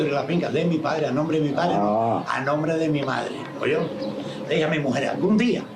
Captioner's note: birds chirping